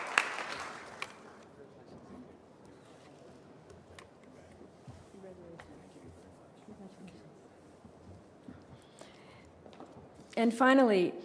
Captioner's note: applause